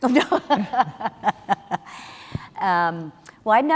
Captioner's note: chuckles